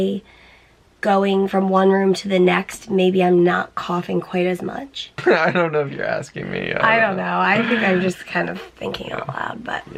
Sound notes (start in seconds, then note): 5.2 laughing